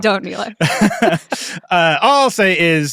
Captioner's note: all laughing